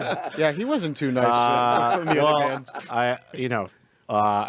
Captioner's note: group laughing; group chattering